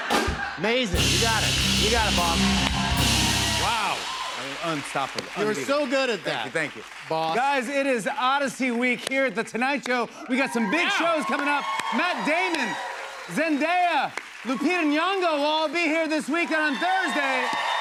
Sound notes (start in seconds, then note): 0.0 laughter; 2.2 cheers and applause; 17.6 cheers and applause